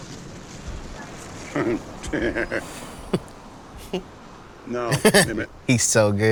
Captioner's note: laughs